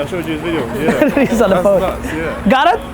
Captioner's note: laughs